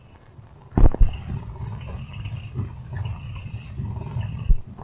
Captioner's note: winch whirring